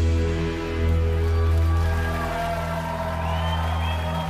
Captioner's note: loud cheers & applause